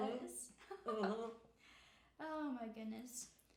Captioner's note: laughing